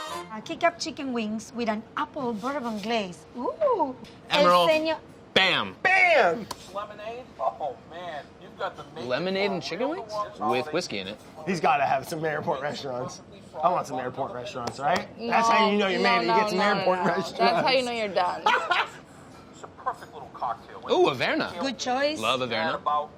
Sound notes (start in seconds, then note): 18.4 laughs